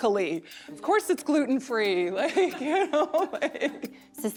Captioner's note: laughs